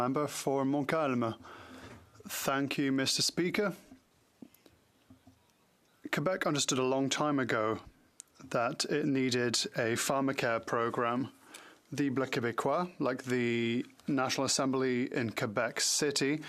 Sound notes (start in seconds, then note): 4.8 speaking French